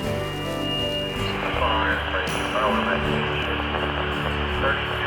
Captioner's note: static from radio